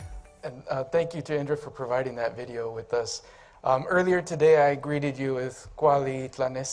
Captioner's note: speaking Aztec